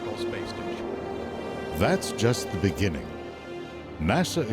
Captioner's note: voiceover